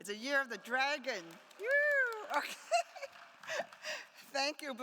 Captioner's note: attendees applauding; laughs